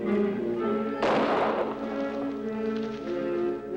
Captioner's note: gun fires